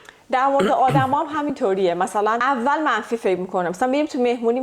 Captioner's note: clears throat